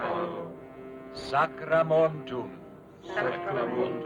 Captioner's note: all speaking foreign language; speaking foreign language; all speaking foreign language